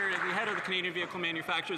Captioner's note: some Applause